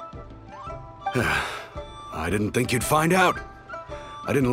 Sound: sigh

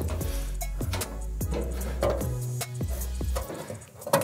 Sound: upbeat music; metal sheets cranking

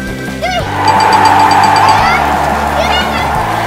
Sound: ding, ding, ding, ding!

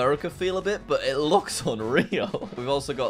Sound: laughs

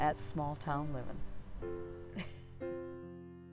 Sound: laughs; instrumental music

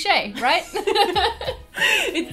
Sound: both laugh

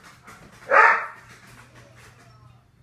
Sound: Duke barks

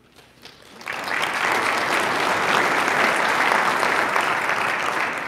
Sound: audience applauding

